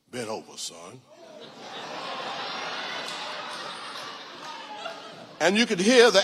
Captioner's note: audience laughing